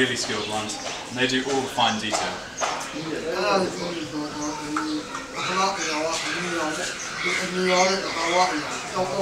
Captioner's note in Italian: parla birmano